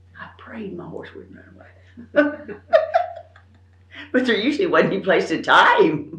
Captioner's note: laughs